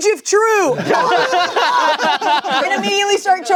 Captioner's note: everyone laughing